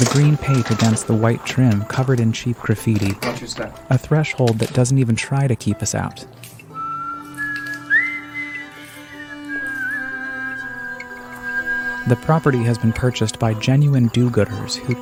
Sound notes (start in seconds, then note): 6.7 person whistling